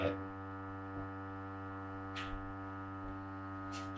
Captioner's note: dolly buzzing